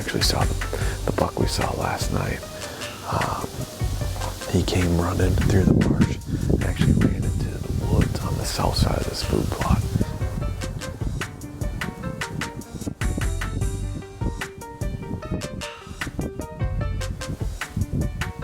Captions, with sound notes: and next we saw the buck we saw last night. He came running through the marsh, and actually ran into the woods, on the south side of this food plot. (wind whooshing)